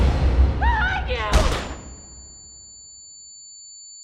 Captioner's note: gunshot